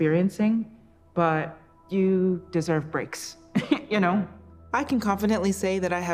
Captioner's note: chuckles